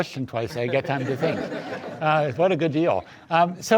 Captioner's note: audience laughs